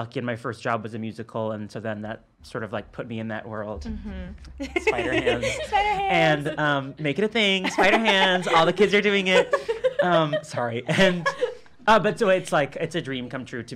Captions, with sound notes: and my first job was a musical, and then that sort of put me in that world. - Mmm hmm. (laughing) - Spider hands. - Spider hands. - And making a thing, spider hands. All the kids are doing it. (laughing) Sorry, and it's like, it's a dream come true